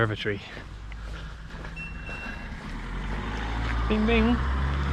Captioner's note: GARMIN chimes